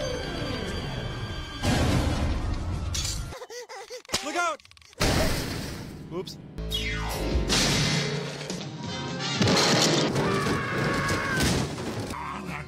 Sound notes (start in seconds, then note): 0.0 suspenseful music; 1.6 loud crash; 4.3 loud crash; 6.8 loud crash; 10.1 screaming